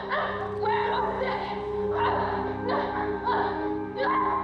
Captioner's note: both grunting